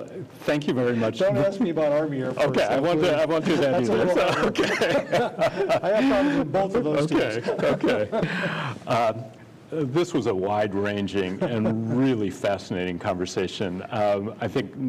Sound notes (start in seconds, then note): 3.4 laughter